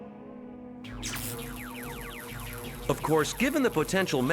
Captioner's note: electricity buzzing